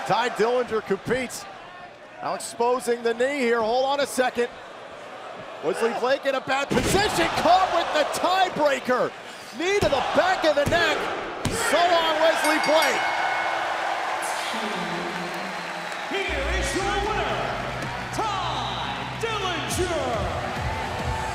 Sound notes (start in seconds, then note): 12.3 bell ringing